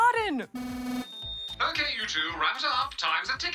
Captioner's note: electronic buzzer sounds